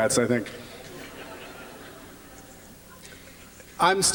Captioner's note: laughter